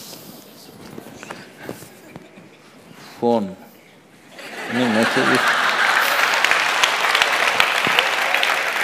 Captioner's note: laughter/Applause; 笑聲/掌聲